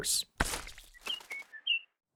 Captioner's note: splat